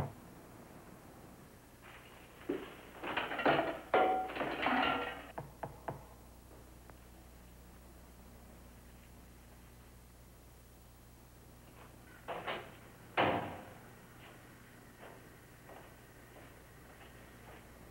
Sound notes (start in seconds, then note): 4.5 knock on door